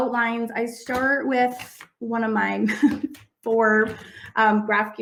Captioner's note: laughs